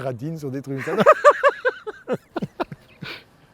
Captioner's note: laughs